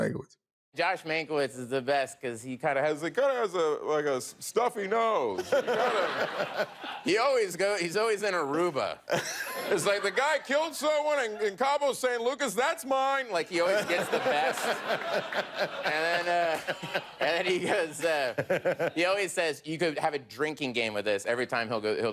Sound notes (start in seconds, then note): 5.4 audience laughs; 13.6 laughter